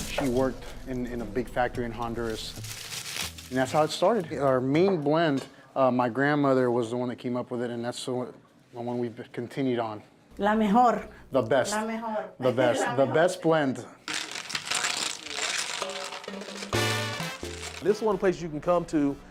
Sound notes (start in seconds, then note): 10.6 in Spanish; 14.9 lively music